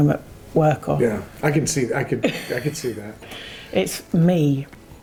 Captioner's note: chuckling